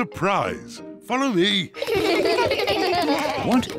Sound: kids laugh

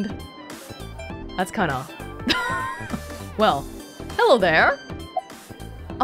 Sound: chuckles

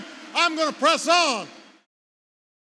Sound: applause

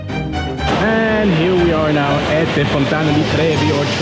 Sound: speaking foreign language

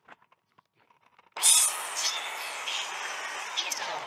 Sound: saw whirring

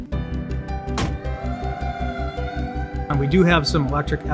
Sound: siren wailing

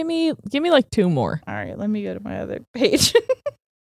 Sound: laughs

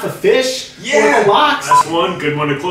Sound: transition beep

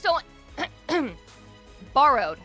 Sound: clears throat

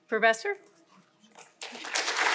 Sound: applause

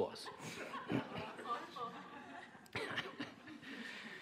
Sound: audience laughing

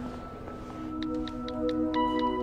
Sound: buttons clicking

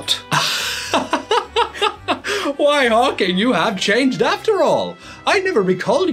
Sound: laughing

